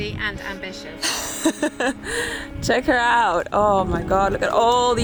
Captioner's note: laughs